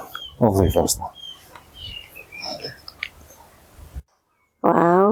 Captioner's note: birds tweeting